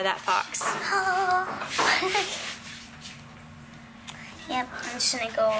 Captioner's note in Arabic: يضحك